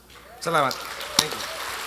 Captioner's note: speaking in foreign language